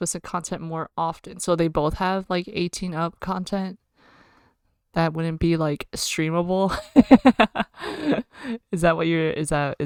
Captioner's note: laughs